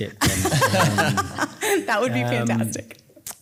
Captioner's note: laughing